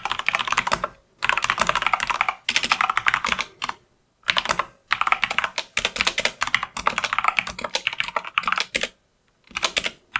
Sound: typing

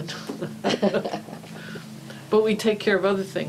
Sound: laughing

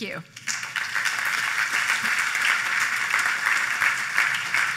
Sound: applause

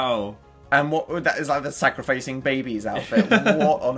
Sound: laughs

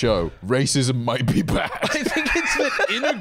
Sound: laughs

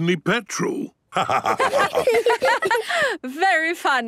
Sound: laughter

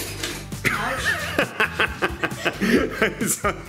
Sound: laughing

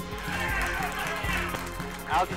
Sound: clapping

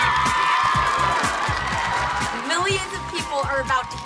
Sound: cheering

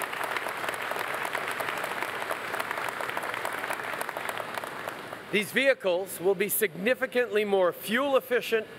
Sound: applause

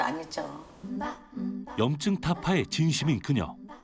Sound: voiceover

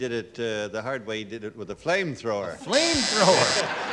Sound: buzzer

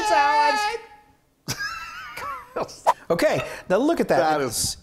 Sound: laugh

